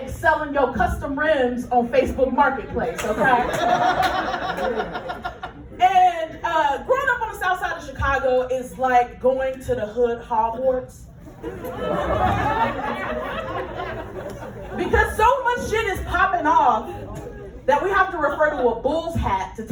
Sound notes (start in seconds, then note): 11.3 laughter